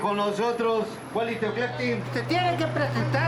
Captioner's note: they speak in Nahuatl